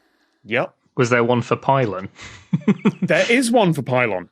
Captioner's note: snickers